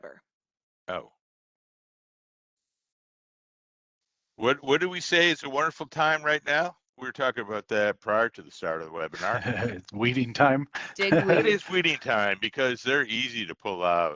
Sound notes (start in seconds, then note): 8.6 laughs